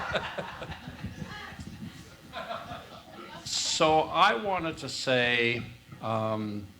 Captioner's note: laugh